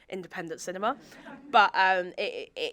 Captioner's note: audience chuckling